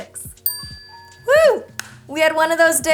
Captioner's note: ding